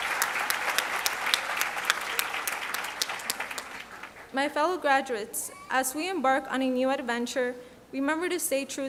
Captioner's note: applause